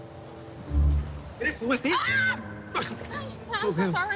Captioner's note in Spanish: Grito